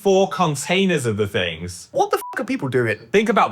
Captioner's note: beep